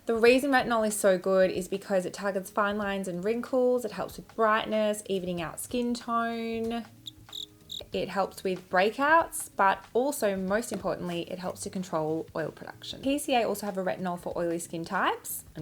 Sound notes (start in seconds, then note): 7.0 crickets chirping